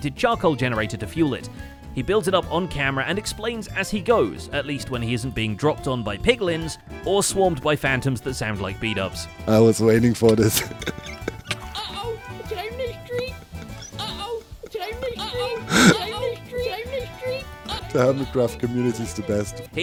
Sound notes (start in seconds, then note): 10.3 chuckles; 12.9 in squeaky Bdubs voice